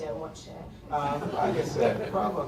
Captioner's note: laughter